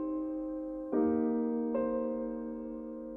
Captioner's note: none